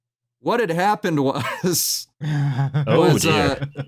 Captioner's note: chuckles